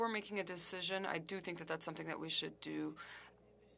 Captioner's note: speaking french